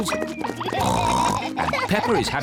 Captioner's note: oinks